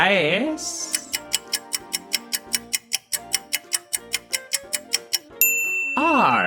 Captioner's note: A clock ticks and a bell sounds revealing the solution